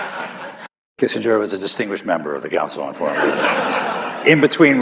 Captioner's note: laughter